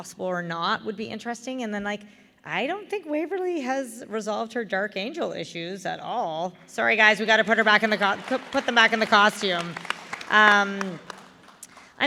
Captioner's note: applause